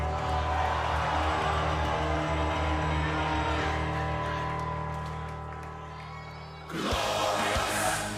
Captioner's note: cheers and applause